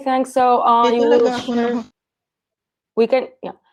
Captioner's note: chatter